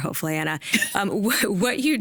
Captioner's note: laughing